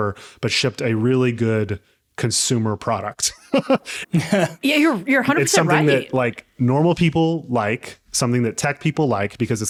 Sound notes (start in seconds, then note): 3.3 laughing